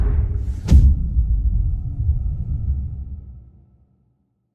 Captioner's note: dramatic sound